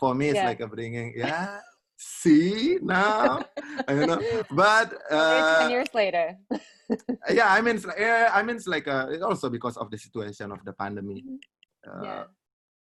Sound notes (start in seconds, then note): 6.4 laughs